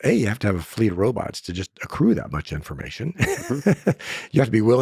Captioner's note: laughing